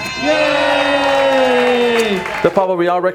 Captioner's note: crowd cheering